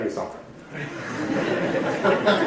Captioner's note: audience laughing